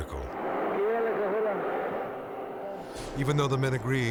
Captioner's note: speaking in Spanish